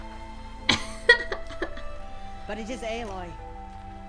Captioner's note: laughter